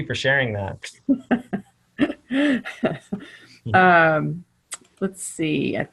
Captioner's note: laughter